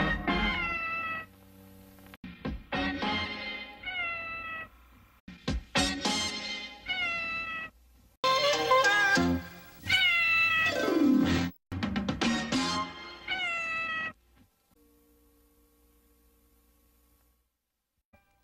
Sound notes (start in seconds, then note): 0.0 Mimsie mews; 3.8 Mimsie mewing; 6.8 Mimsie mews; 9.8 Mimsie mewing as music ends; 13.2 Mimsie mewing; 15.2 VHS static